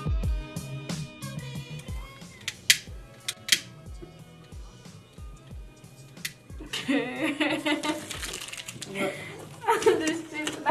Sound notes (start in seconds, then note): 2.4 lighter clicking; 6.8 laughing